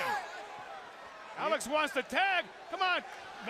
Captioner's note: crowd chatter